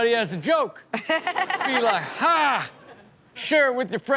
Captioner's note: Chanel laughing